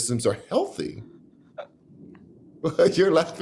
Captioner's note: laughs